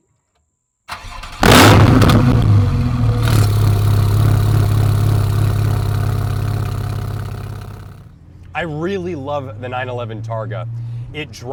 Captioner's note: engine starts